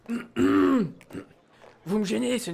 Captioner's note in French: Tousse